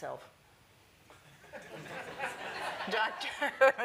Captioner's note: laughter